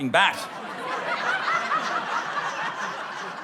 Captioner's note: laughter